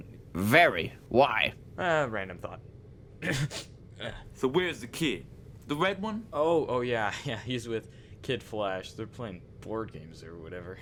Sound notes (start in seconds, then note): 3.2 cough